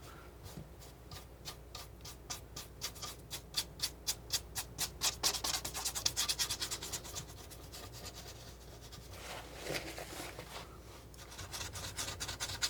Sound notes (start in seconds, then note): 0.8 scratching